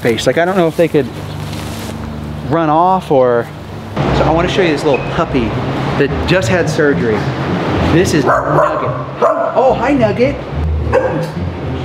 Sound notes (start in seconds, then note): 8.2 Nugget barking